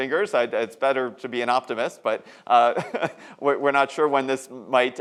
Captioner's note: laughs